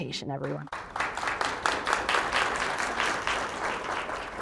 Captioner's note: audience applauds